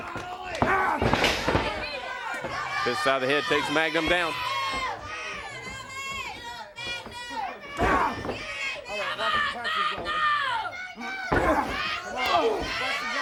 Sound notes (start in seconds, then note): 0.0 crowd cheering; 5.2 crowd chatter